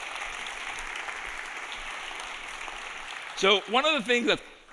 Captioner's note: audience applauding